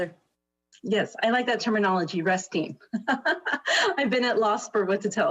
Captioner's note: laughs